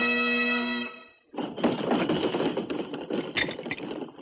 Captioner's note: pounding table